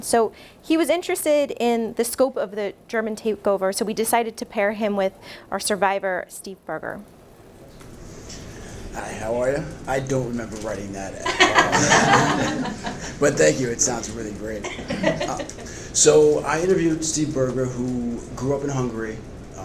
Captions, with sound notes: So he was interested in the scope of the German takeover, so we decided to pair him with our survivor, Steve Berger. - Hi, how are ya? I don't remember writing that at all. (audience laughs) But thank you. It sounds really great. So I interviewed Steve Berger who grew up in Hungary.